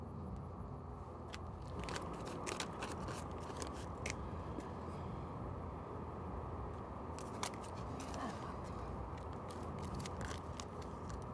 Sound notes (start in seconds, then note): 1.2 money rustling